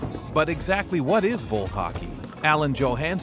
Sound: voiceover

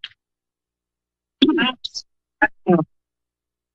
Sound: distorted voice

